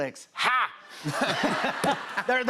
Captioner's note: laughter